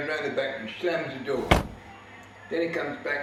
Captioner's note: car door slams